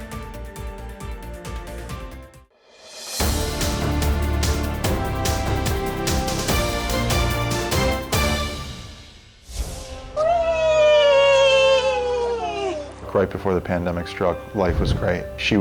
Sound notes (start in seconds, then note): 0.2 bright instrumental music; 10.2 both cheer